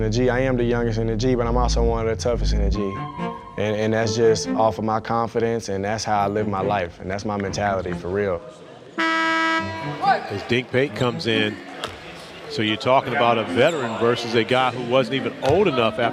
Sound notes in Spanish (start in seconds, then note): 8.9 zumba el reloj